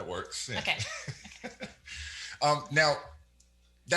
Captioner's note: laughs